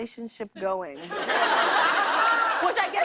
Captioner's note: laughter